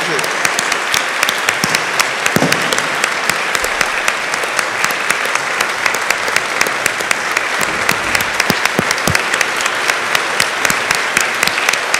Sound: applause

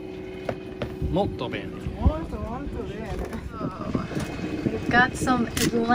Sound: speaking foreign language

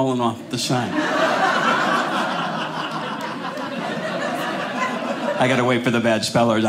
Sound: audience laughing

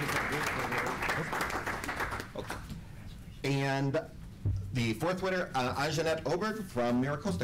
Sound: applause

